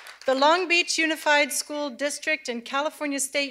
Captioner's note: cheers and applause